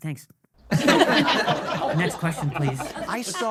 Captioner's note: audience laughing